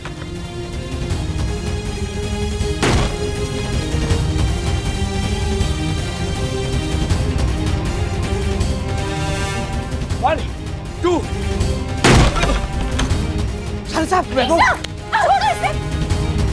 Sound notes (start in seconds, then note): 0.1 dramatic music playing; 12.0 door breaks open